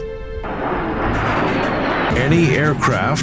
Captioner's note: jet engine roaring